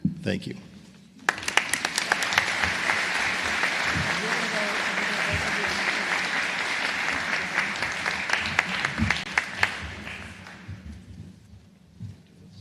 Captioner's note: applause